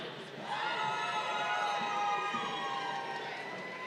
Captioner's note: crowd cheering